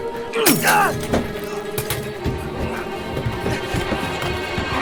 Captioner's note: Christopher grunting; bottle shattering; intense music